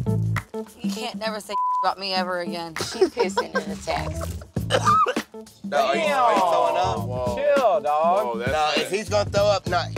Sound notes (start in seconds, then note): 1.5 beep; 4.6 coughs